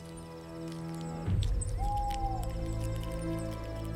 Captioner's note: owl hoots